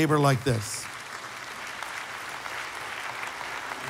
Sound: applause

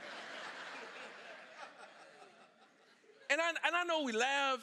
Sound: congregation laughing

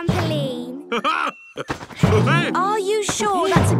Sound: laughs

